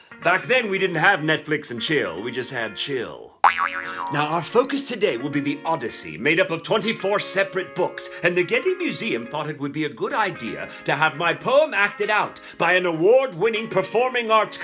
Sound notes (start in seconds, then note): 3.4 sproing